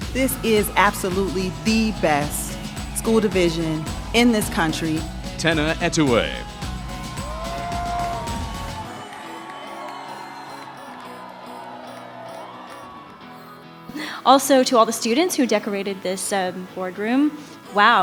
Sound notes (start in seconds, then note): 7.1 bright music; 8.2 audience cheering